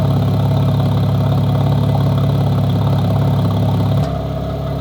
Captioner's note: car exhaust roaring